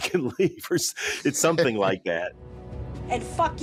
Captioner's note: chuckles